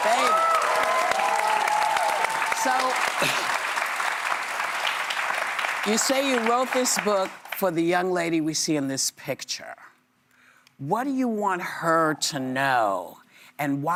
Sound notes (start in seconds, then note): 3.3 applause